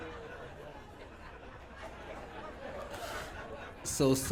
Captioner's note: audience Laughing